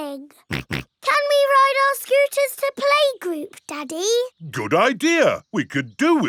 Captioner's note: snorts